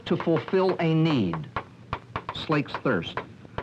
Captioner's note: chalk tapping slate board